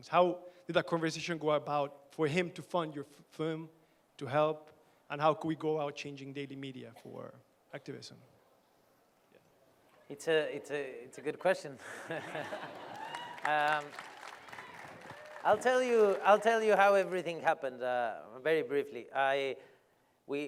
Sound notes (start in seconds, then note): 11.8 laughter; 12.5 applause